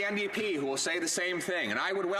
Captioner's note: some Applause